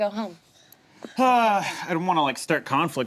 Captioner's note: sighs